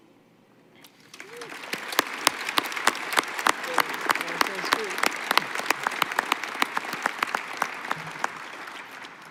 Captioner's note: applause